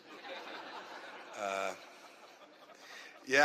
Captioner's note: laughter